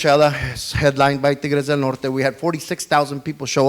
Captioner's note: speaks foreign language